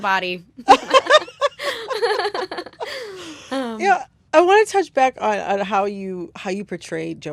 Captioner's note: laughter